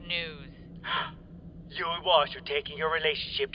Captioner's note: gasps